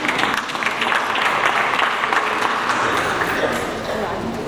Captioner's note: audience applauds